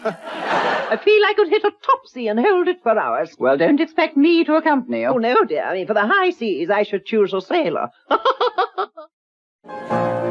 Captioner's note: laughing